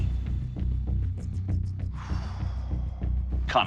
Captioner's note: exhales